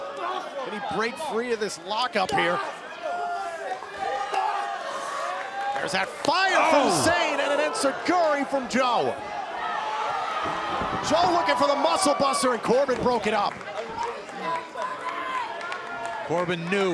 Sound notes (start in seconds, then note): 3.9 crowd cheering; 14.2 crowd cheering